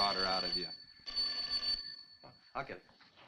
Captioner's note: telephone rings